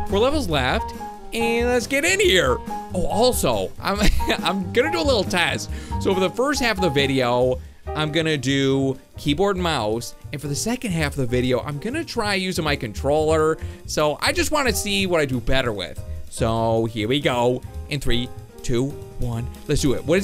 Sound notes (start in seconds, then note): 4.0 laughing